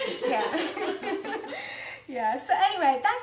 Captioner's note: laughs